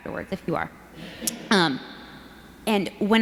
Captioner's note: audience laughs